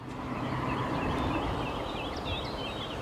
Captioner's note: birds singing